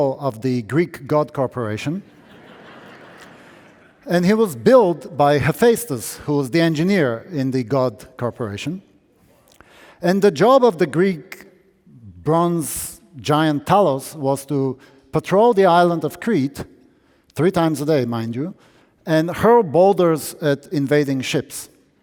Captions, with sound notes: of the Greek God Corporation. (audience laughing) And he was built by Hephaestus who was the engineer in the God Corporation. And the job of the Greek bronze giant Talos was to patrol the island of Crete three times a day mind you. And hurl boulders at invading ships.